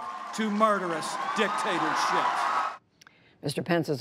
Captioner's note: cheering and applause